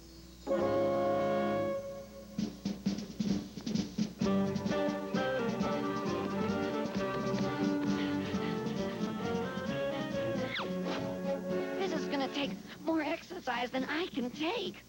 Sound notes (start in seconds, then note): 6.0 footsteps; 6.0 panting